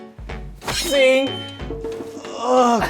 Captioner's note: schwing